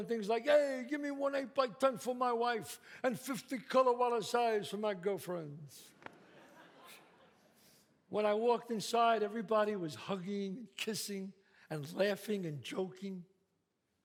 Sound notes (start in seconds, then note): 5.8 scoffs; 6.0 audience laughs